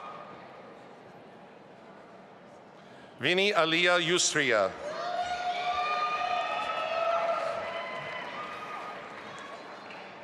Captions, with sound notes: Vini Aliya Yusriya. (audience applauding)